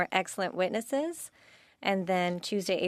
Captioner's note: speaking French